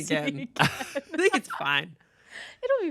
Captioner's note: laughs